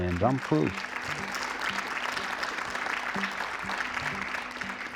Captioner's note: audience cheering